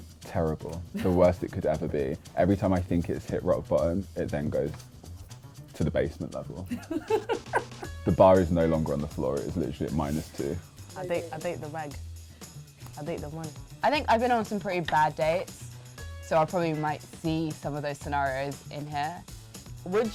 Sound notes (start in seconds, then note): 6.7 laughing